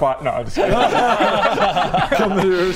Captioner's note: relieved laugh